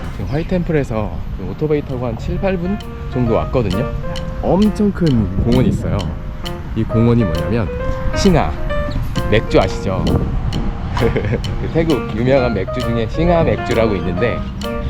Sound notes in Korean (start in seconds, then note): 11.0 웃음